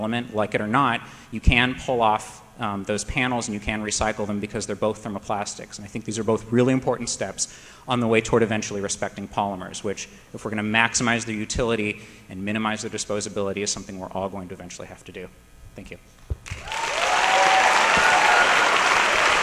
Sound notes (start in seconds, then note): 16.4 applause